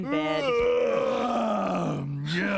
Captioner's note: yawning